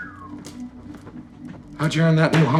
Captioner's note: Chuck whistles